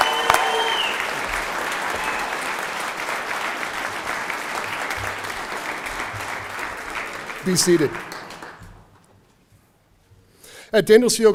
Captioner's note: cheering; applause